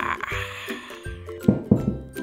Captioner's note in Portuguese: Batida na porta